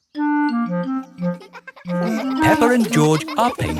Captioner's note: children laughing